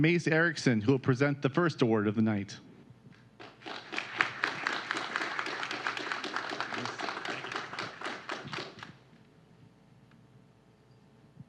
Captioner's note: applause